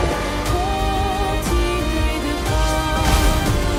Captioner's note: roaring